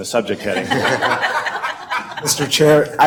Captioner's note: laughing